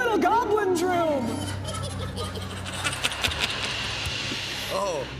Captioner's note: creatures cackling